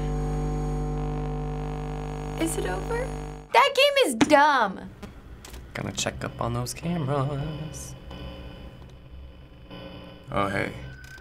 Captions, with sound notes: - (in game: static buzzing) - Is it over? That game is dumb! (singsong) Gonna check up on those cameras. Oh, hey.